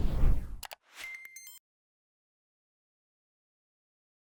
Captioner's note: beeping